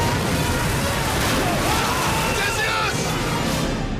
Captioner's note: dramatic music; men screaming